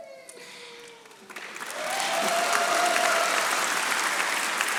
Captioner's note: audience applauding